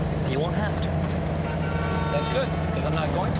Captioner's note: car horn honking